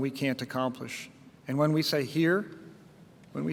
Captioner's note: none